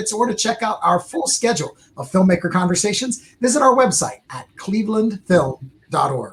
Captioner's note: none